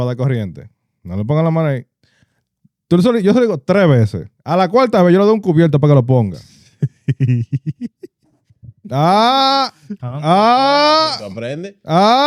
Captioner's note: speaking In Foreign Language